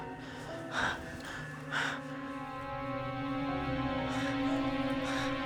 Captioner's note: Claire breathing heavily; suspenseful music